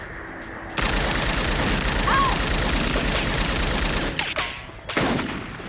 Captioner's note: rapid gunfire popping; gunshots booming